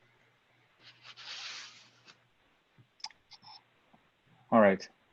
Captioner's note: papers shuffling